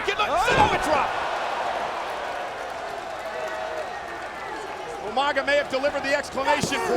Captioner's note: applause